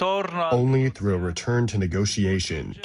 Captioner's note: through translator